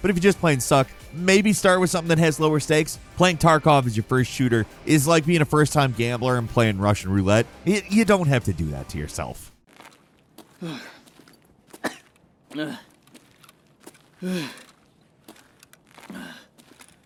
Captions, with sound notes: But if you just plain suck, maybe start with something that has lower stakes. Playing "Tarkov" as your first shooter is like being a first-time gambler and playing Russian roulette. You don't have to do that to yourself. (man panting) (man coughing)